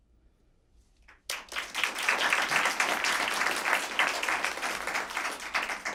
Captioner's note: applause